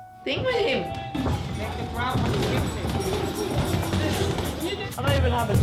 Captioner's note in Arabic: أكياس الملاكمة تضرب في الملاكمة